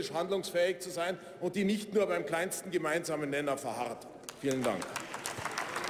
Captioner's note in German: Beifall beim BÜNDNIS 90/DIE GRÜNEN